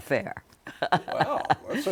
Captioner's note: laughter